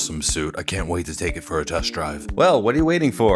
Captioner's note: Deep Batman voice